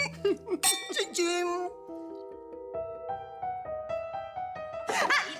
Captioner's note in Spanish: Risas